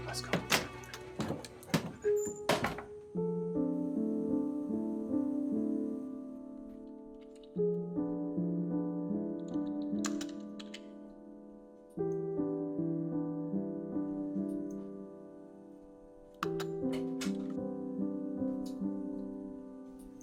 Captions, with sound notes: Come on, let's go. (soft piano music) (keys striking) (door opening)